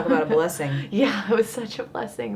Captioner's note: laughs